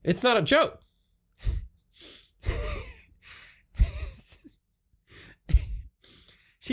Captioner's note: pewds laughs